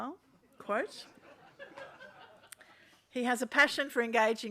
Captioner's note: people laugh